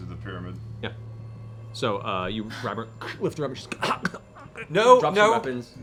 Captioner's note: choking noise